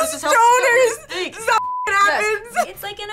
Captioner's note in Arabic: يضحك; الصافرة